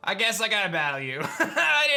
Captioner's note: laughs